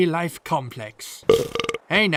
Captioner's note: belch